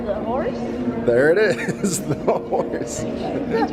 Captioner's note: laughing